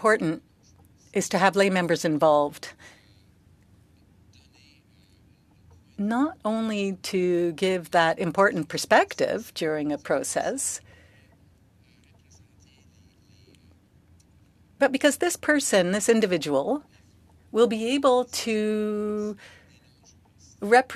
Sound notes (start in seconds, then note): 0.9 speaking French